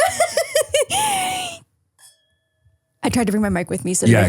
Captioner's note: person laughing